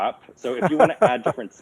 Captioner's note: laughs